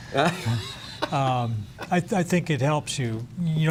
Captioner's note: laughter